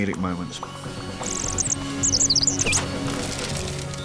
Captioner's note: chirping